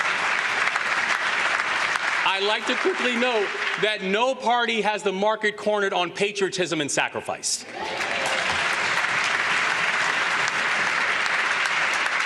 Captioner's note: applause